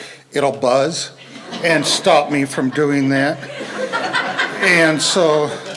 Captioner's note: laughter